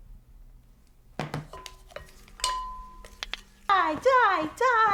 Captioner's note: phone thumps